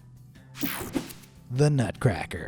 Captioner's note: screen buzzes and whooshes